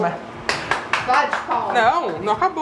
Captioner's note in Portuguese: palmas